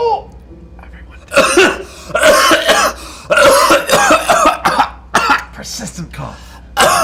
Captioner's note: coughs heavily